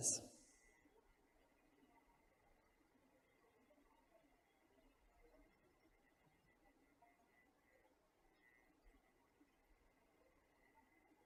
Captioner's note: silence